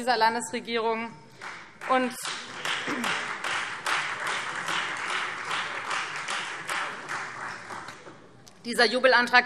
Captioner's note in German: Beifall Freie Demokraten und vereinzelt SPD